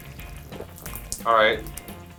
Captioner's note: squishing